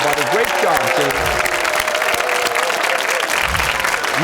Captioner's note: cheers and applause